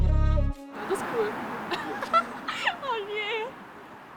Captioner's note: laughes